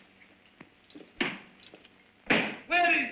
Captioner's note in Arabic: يضرب الكتاب على المكتب